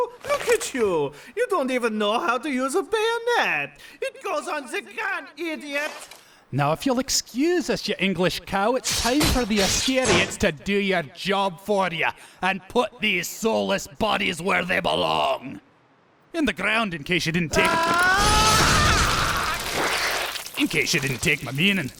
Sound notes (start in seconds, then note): 17.5 splattering; 17.6 Nazi Roaring